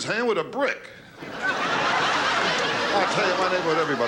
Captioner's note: laughing